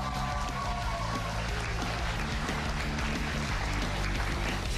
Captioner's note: cheers and applause